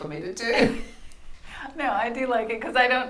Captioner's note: laughs